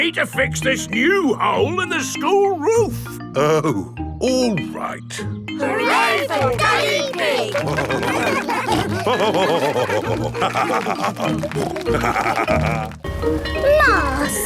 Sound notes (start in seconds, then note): 8.5 all cheering; 9.5 laughing; 10.6 snorting; 13.2 bell ringing